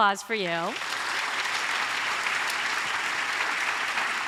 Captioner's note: audience applauds